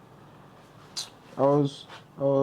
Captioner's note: flicks tongue